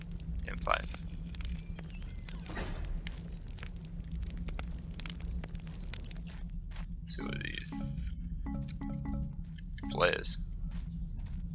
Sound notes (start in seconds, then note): 0.0 fire crackling; 2.2 door slams